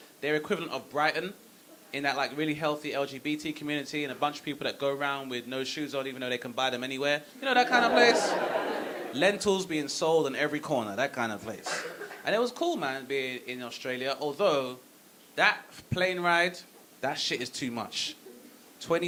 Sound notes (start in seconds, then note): 7.5 audience laughing